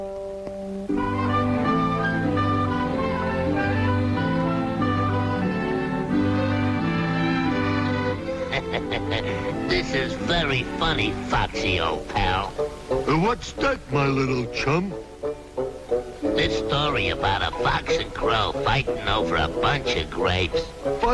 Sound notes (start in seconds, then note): 0.9 soft music; 8.2 laughs